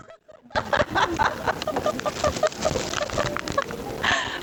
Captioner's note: laughing